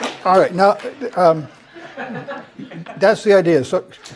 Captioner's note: applause; laugh